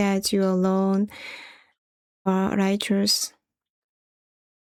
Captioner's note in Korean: 헉 소리